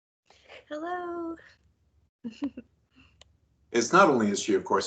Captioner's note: giggles